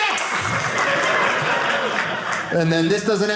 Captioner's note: audience laughing